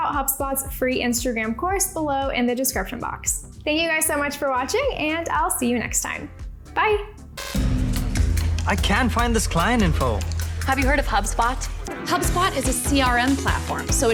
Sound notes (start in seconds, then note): 7.3 static buzzes; 7.6 upbeat music